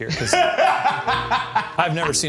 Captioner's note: laughing